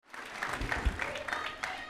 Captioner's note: applause